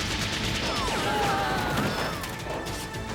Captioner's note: screams